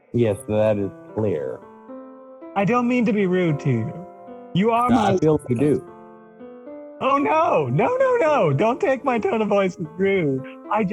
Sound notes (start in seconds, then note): none